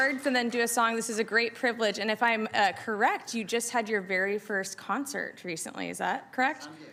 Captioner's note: applauding